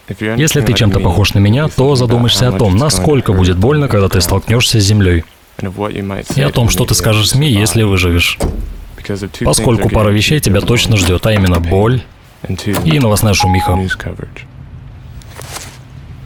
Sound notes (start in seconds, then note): 8.3 car trunk thuds; 12.6 car lock thuds; 13.3 beep sound